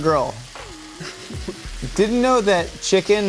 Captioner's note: bologna sizzling